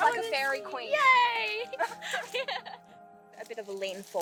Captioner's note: laughs